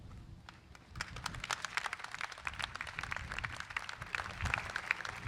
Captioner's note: crowd applauds